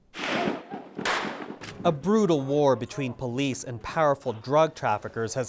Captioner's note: gunfire